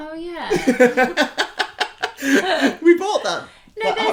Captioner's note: laughter